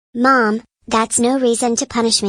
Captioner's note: none